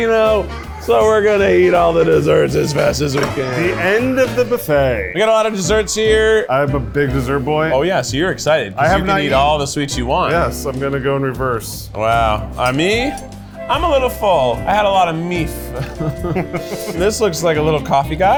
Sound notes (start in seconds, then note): 15.6 chuckles